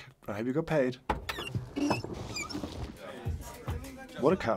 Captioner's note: car door squeaks